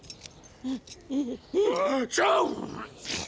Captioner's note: sneezing